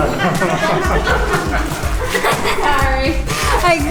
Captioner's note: laughing